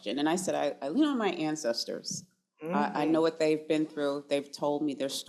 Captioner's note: none